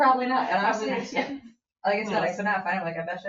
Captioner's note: people chatter